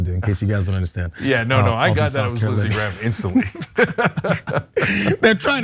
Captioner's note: laugh